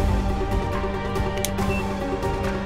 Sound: watch beeps

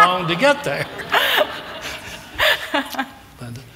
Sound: laughter

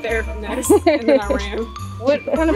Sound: laughter

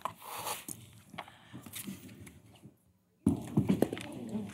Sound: indistinct chatter

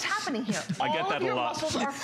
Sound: laughter; laughter

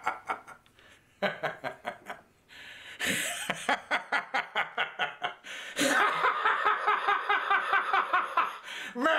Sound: laughing

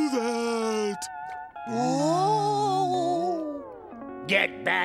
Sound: moaning

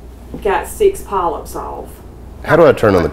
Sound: water running

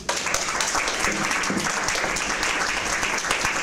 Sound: applause

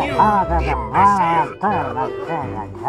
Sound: talk in gas mask language; Railgunner crying; talk in gas mask language

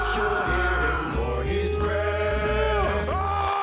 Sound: screams

